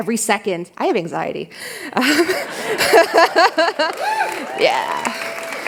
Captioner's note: laughter